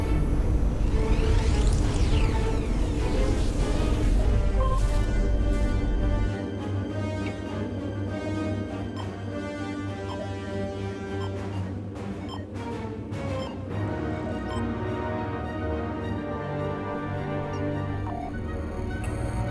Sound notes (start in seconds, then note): 16.8 beeping of remote control